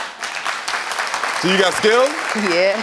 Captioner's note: audience applauding